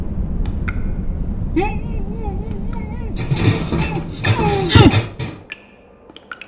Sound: muffled screaming

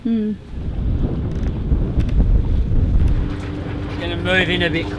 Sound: strong wind blows

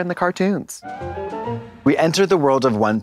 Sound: pleasant chime

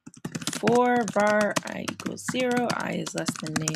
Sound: typing

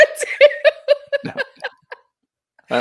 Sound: laughs

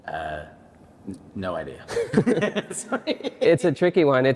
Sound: laughing

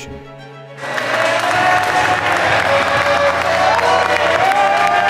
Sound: team clapping and cheering

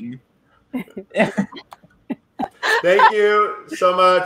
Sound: laughing

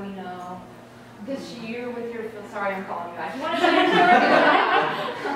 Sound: laughter

